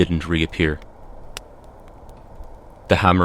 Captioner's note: hammering again, even fainter, but echoes are more intense